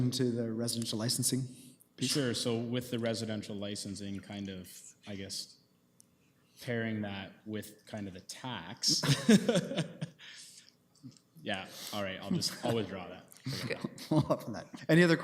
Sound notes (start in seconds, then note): 8.9 laughs; 13.4 laughs